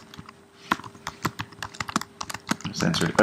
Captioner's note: typing